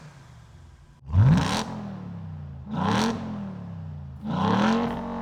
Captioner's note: engine revs